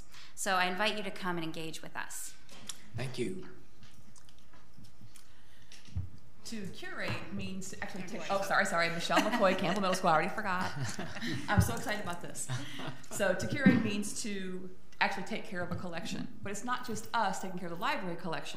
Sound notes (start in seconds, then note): 12.8 board laughing